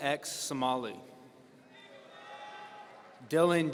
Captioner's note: audience cheering